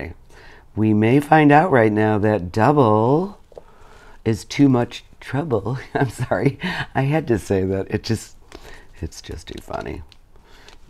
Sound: laughs

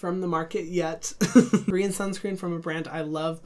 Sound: laughing

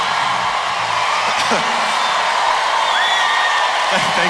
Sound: coughs

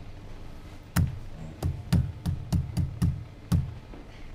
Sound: thuds

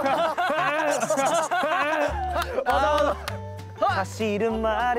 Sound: laughing

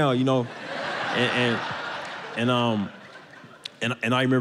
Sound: audience laughs

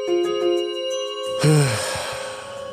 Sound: sighs

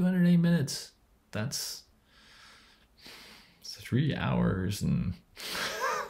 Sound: laughs

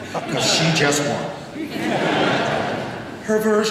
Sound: audience laughing

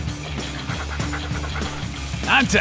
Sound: good boy panting

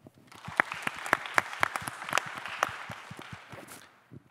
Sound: audience applauding

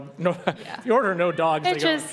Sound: laughs

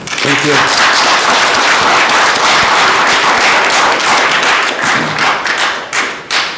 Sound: audience applauding

